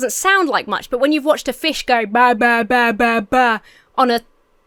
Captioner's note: Emma speaks gibberish